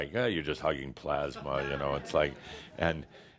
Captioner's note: some chuckles